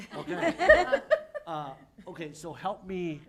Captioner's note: laughter